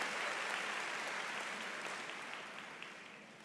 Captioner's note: cheers and Applause